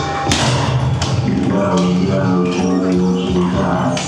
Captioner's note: computer vocalizing